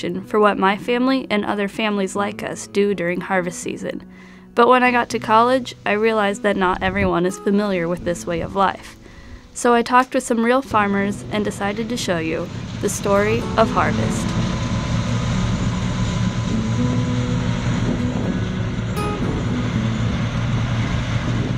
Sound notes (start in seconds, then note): 15.5 combine running